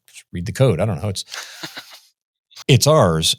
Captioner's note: laughs